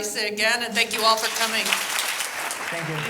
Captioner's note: applause